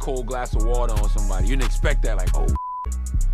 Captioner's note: beep